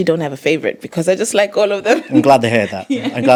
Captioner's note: laughs